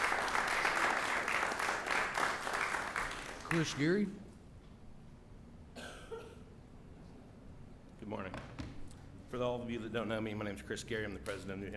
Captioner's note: applause